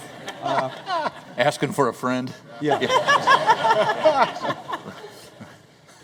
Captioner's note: laughter